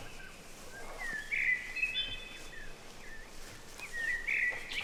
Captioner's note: birds chirping